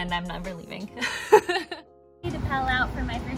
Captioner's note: laughs